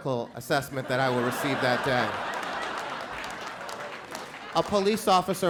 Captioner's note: crowd laughs